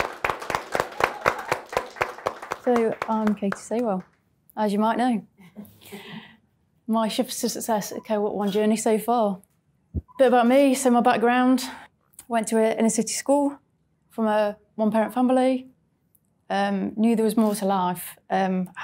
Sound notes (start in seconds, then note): 0.0 audience clapping; 5.7 crowd chuckles